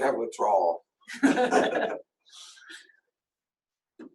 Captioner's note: laughs